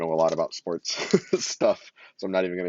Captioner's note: laughs